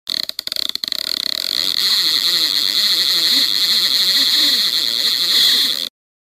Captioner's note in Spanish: Sonido de Reel; Silencio